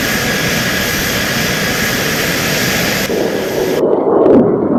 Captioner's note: plane engine buzzing